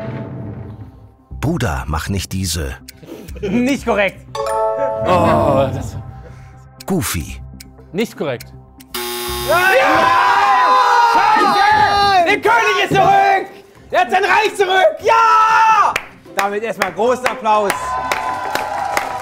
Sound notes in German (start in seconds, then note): 4.3 Klingeln; 9.4 Jubelschreie; 17.3 Jubel, Applaus